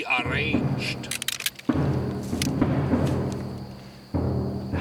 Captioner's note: guns cocking